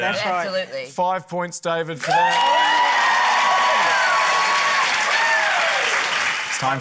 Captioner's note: cheering, applause